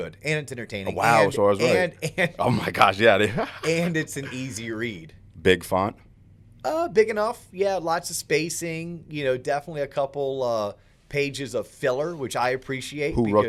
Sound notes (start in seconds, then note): 3.2 laughs